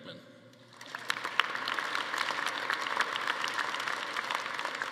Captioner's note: attendees applauding